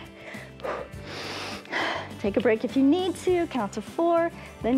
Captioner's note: inhales and exhales